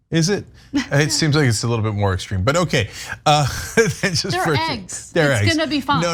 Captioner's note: laugh